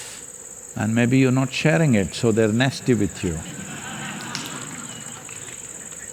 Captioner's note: laughter